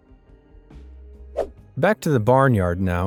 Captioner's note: swoosh